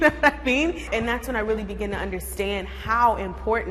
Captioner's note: laughing